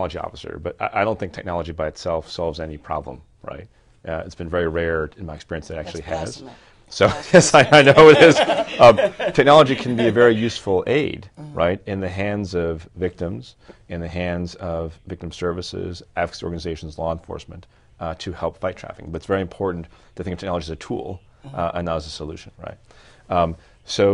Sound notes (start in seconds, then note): 9.8 laughter